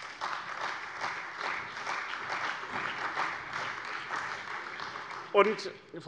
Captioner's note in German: Beifall bei dem BÜNDNIS 90/DIE GRÜNEN und der CDU